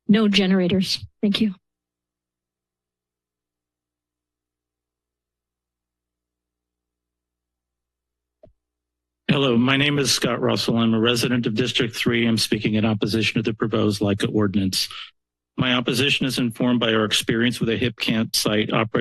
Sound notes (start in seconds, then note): 1.7 silence